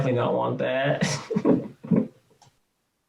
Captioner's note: laughs